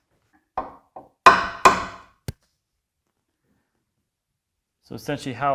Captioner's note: hammer on wood tapping